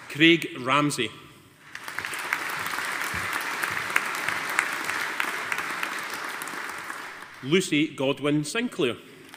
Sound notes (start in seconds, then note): 1.6 audience applauding